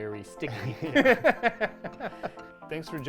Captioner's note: both laughing